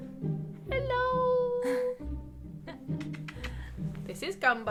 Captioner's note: giggling